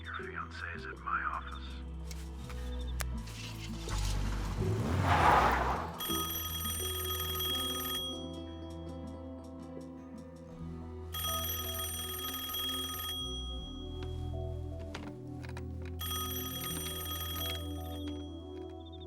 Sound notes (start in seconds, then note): 5.6 tires screech; 6.0 telephone rings; 11.2 rings; 15.9 rings